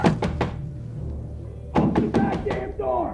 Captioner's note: loud banging